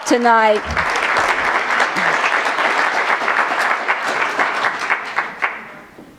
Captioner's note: applause